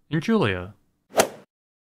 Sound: swoosh

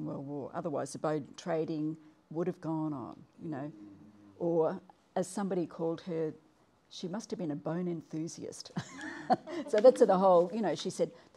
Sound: laughs

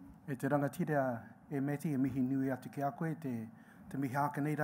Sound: speaking in Maori

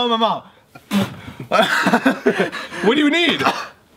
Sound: spitting

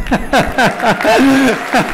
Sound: laughter; applause

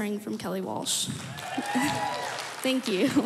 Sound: crowd cheering and applauding

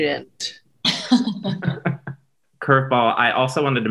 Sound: laughing

